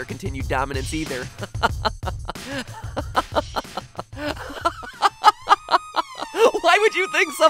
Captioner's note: laughing